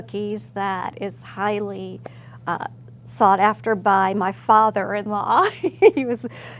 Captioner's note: laugh